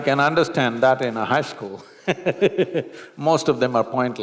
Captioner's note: laughs